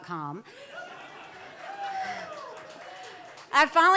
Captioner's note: laughter